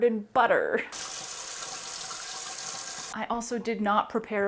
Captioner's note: water sound